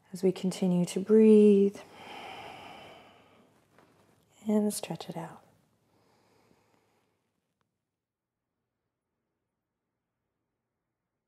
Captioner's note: deep breaths